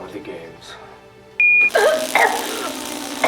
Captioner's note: phone beeps; collar crackling; Macy coughing